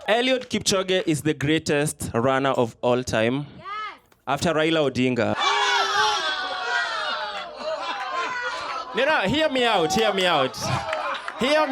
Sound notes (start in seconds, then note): 5.4 shouting